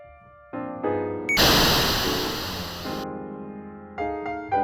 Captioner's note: splash